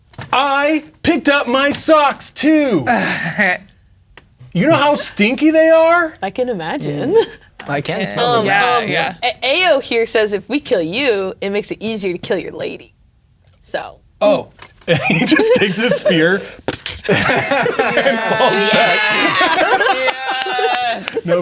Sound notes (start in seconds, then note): 2.8 laughs; 7.7 others agreeing; 16.6 players laughing